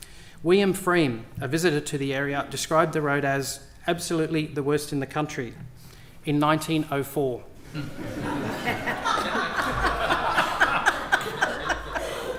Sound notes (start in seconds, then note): 10.2 laughter